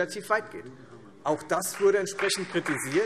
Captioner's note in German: Beifall Freie Demokraten